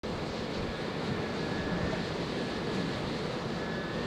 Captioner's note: street ambience sound